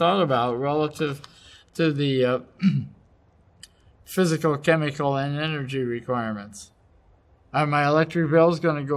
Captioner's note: cough